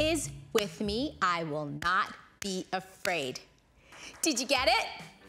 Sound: claps hands; claps hands

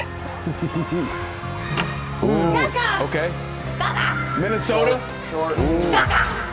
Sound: laugh

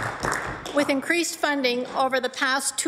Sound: applause

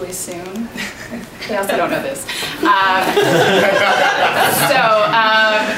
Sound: laughters

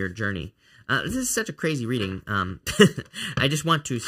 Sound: chuckling

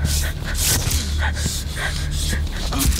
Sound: Honey Badger grunts

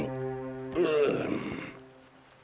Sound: groaning

